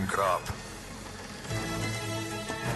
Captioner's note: galley creaking; music crescendo